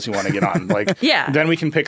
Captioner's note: laughing